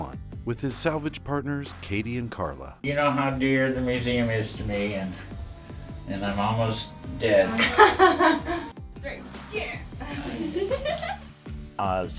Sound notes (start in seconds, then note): 7.0 laugh; 9.6 energetic music